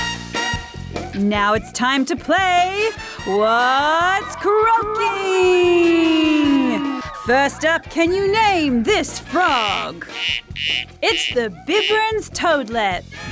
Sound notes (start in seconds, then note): 3.2 echoes; 10.0 frog croaks